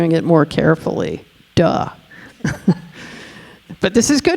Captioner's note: chuckling